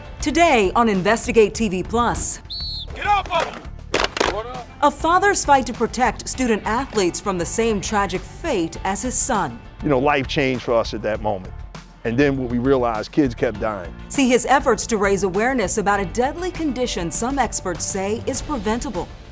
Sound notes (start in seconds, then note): 2.4 whistle blowing